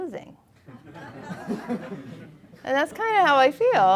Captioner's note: audience laughing